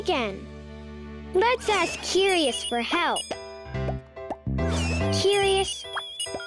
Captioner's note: curious beeping and popping